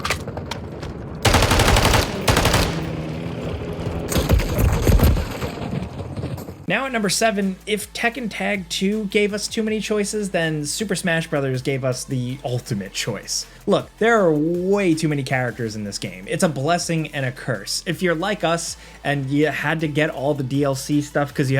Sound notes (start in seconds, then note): 1.2 gun blasting; 1.2 gun cocking; 4.2 guns blasting